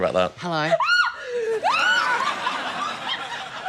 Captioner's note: shrieks, laughs